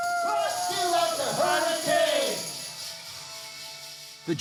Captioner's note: cheering